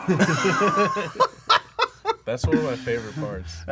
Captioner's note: laughter